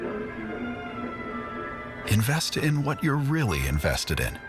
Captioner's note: faint TV audio